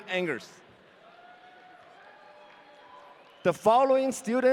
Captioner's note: audience cheering